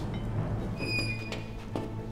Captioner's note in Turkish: Kapı açılma sesi